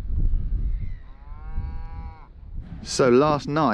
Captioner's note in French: les vaches mugissent en arrière-plan